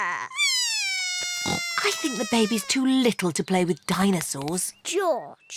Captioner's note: bawls